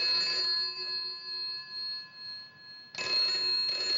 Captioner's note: phone Ringing